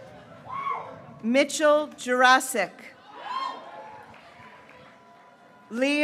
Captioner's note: graduates cheering